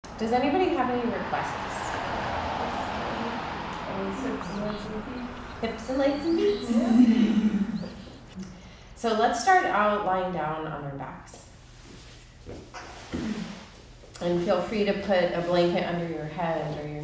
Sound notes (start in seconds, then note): 6.0 chuckling